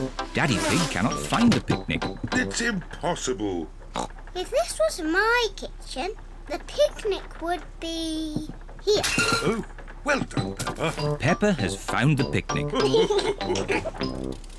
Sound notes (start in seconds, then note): 3.9 oinks; 12.7 all laugh